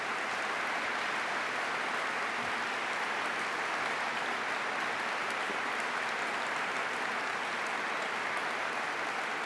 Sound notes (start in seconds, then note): 1.8 applause